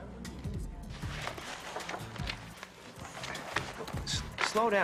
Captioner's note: papers shuffling